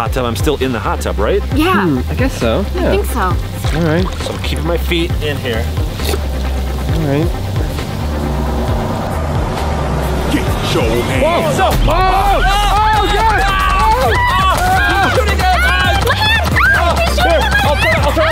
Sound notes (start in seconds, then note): 6.0 water gurgling; 8.3 intense music; 10.8 speaking foreign language; 12.0 screaming